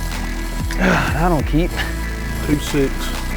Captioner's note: grunts